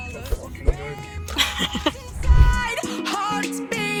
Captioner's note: laughing